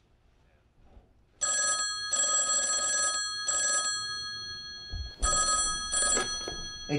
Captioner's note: phone ringing